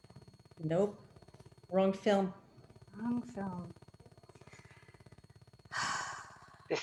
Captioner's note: sigh